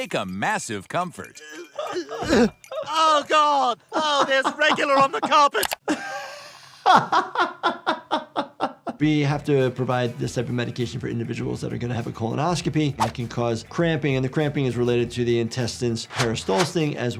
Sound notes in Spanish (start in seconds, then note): 2.0 gemidos; 6.0 riendo